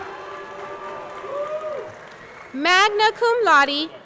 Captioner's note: audience cheering; audience clapping